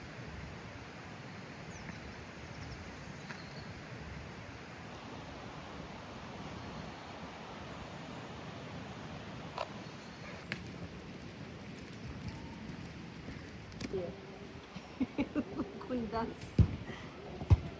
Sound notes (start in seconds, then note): 14.7 laughter